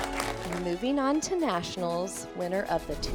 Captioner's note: crowd applauds